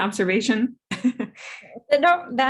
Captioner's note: chuckles